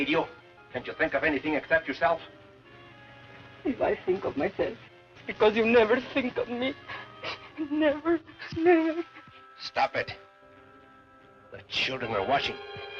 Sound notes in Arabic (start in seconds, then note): 6.8 نشيج